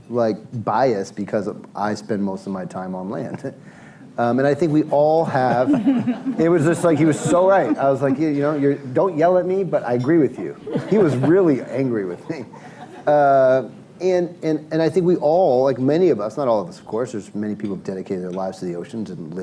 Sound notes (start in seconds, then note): 5.3 laughs; 5.4 laughter; 12.9 laughter